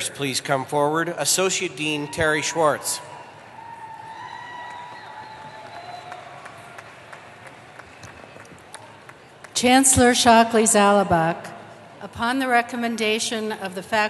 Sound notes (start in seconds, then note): 2.0 cheering